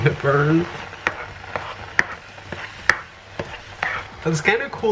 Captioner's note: spoon scraping noises